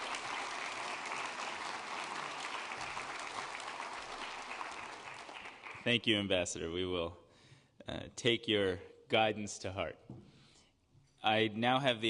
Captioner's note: applause